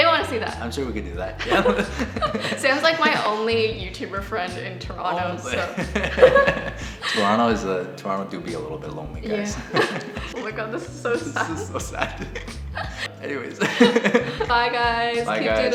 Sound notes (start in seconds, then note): 1.4 both laugh; 5.5 both laugh; 9.5 both laughing; 13.6 both laughing